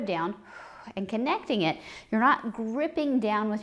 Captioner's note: exhales